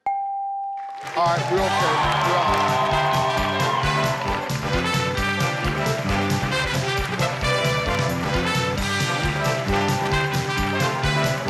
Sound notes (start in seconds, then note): 0.0 tone dinging; 2.3 audience clapping and cheering; 3.7 upbeat music